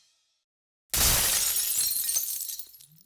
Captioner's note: glass shatters